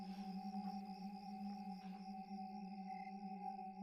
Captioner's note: insects chirp